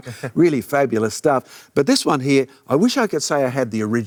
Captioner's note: laughs